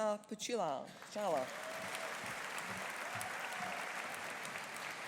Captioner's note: audience applauding